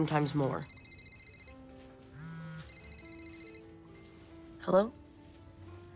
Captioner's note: phone ringing